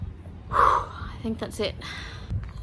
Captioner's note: breathes out heavily